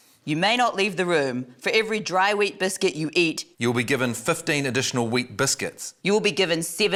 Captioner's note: none